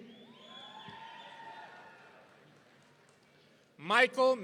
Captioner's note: audience cheering